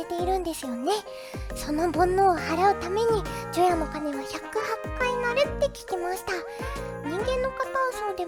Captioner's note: ringing bells on New Year's Eve